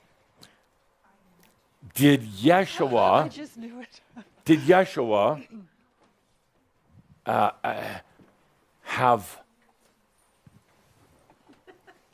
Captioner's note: she giggles